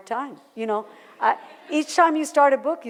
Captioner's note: laughter